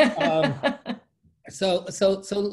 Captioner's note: laughing